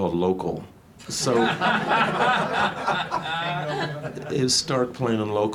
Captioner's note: audience guffaws